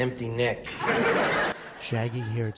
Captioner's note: laughter